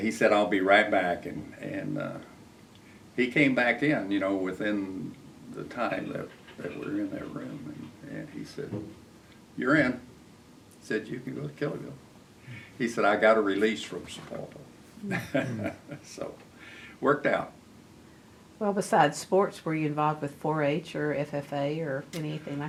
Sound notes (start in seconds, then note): 15.0 laughs